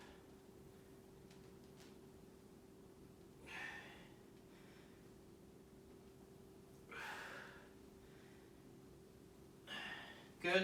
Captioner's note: inhaling and exhaling